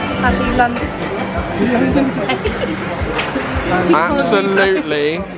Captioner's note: laughing